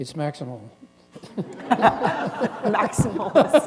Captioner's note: laughter